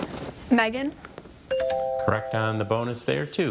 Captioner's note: tone chimes